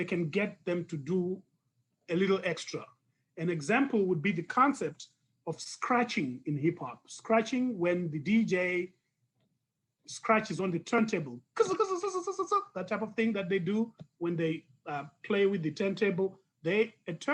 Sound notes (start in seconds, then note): 11.6 imitates record scratching